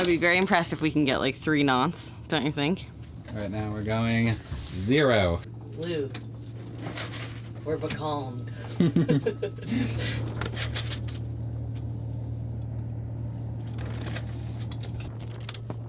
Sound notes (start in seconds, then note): 8.6 both laughing